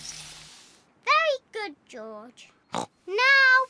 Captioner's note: snorts